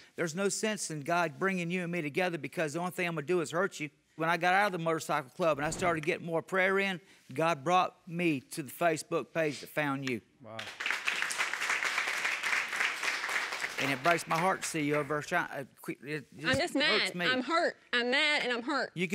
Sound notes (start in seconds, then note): 10.6 applause; 15.6 stammering